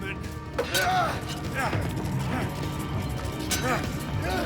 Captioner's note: groans